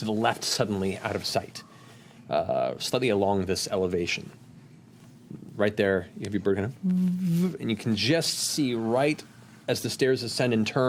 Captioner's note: hovering hum